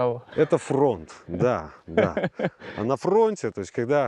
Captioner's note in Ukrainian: сміються